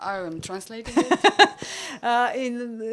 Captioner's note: laugh